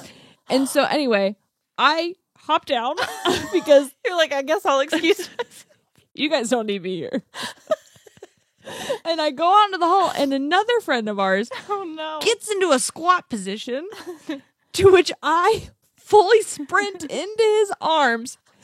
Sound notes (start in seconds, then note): 7.4 laughs